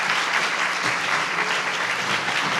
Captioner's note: applause